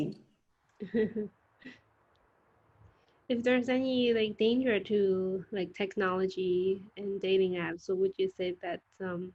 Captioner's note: chuckles